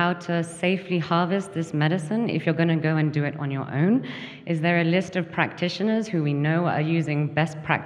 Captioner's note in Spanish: habla en inglés